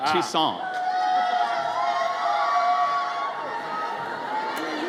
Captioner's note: audience cheers